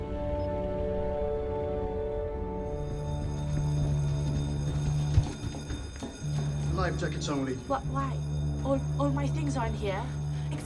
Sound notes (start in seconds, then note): 2.8 bell ringing; 3.0 ship horn blaring